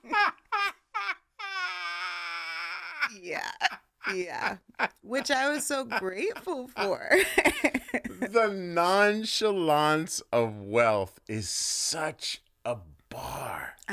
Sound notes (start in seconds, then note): 4.0 laughter; 7.8 laughing